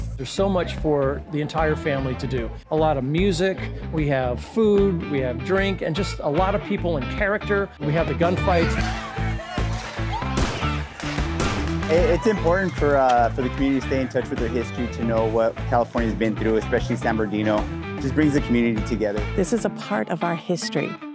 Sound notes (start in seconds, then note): 8.8 shouting; 10.2 gunshots